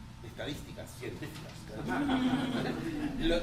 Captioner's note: laughter